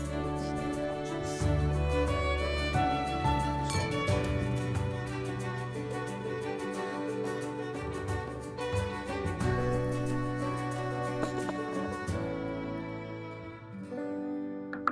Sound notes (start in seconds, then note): 0.2 gentle orchestral music continues; 3.8 glasses clinking